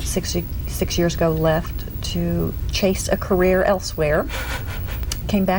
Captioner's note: giggles